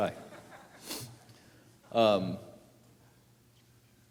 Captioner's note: audience laughs